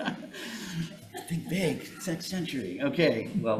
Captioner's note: attendee chuckling; chuckling; attendee chuckling